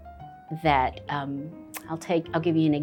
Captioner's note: smacks lips